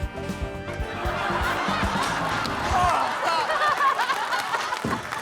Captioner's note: audience laughs